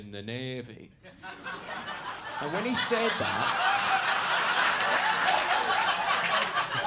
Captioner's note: audience laughing